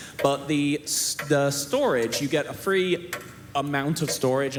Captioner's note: none